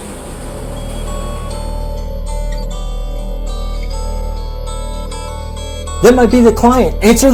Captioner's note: phone rings